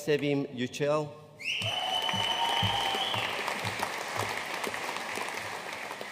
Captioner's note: audience cheering and applauding